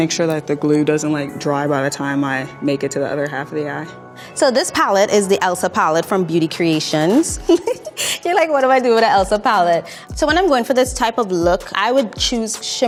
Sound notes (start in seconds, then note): 7.1 laughing